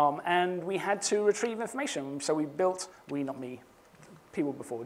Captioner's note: none